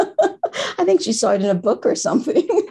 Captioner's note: laughter